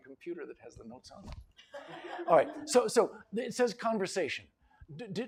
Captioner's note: laughter